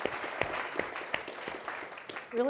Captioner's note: applause